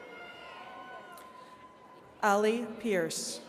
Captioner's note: attendees cheering